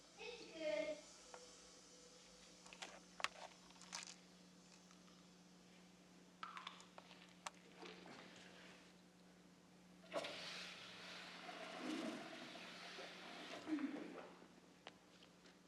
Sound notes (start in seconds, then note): 3.5 whimsical musical theme playing outside; 12.0 toilet flushes